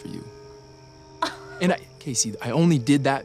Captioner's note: scoffs